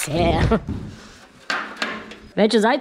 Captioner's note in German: klappern